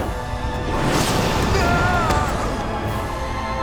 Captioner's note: screaming